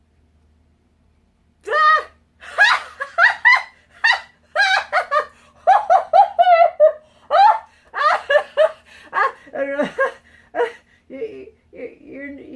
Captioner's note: uncontrollable screams of laughter